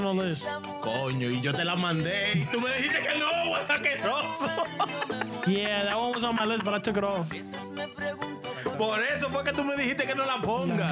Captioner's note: laughter